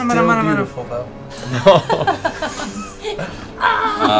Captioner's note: laughter